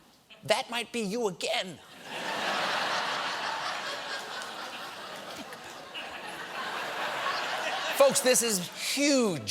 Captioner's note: laughter